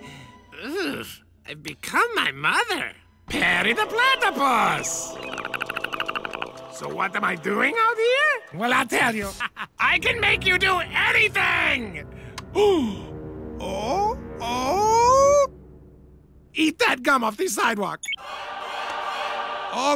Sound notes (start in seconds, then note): 12.2 gasps